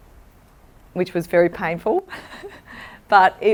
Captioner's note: laughs